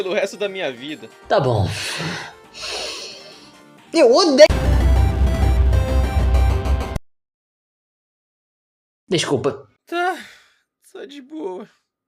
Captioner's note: breathes in